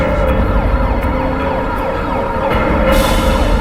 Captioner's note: sirens wailing